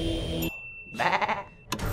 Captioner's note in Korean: 양 울음소리